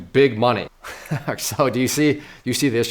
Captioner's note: chuckles